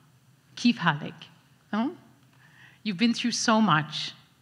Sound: speaks foreign language

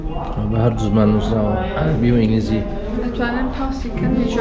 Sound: arabic and English

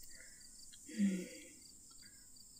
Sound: she hums thoughtfully

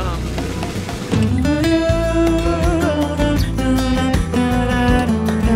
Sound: vocalizing

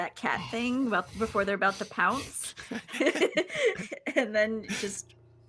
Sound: laughs

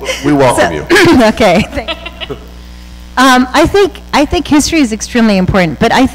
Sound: laughter

